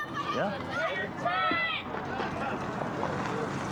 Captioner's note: screaming